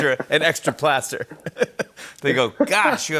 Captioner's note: both laugh